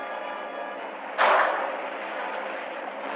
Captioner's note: gunshot